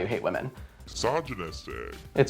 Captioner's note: distorted voice